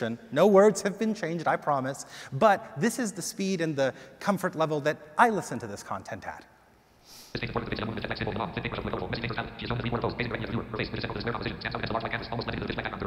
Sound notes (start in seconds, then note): 7.2 automated voice gibbers